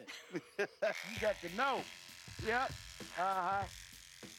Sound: shear buzzes

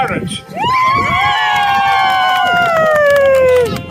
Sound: family cheer

